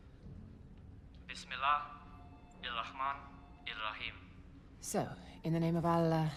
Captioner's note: speaking foreign language